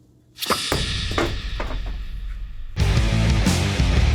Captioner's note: bottle dropping; rock music